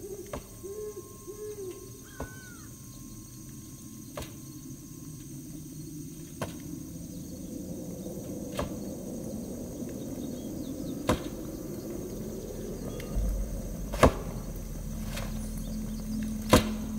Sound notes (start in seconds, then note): 0.0 sounds of the forest, distant hooting of an owl; 1.3 wood cutting in the distance; 10.9 chop; 14.0 chop; 16.4 chop